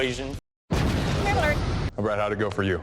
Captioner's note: explosion